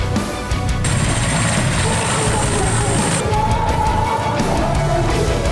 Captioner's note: epic music; helicopter engine roaring